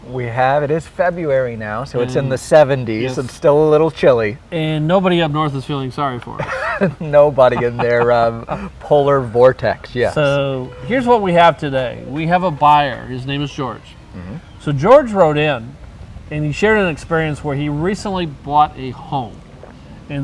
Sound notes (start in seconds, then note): 6.3 laughs